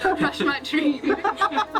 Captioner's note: laughter